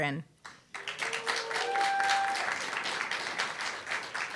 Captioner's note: applause, cheer